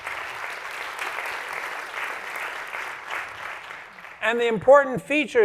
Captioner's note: applause